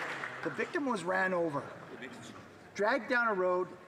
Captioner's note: some Applause